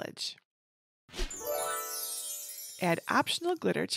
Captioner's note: gentle tinkling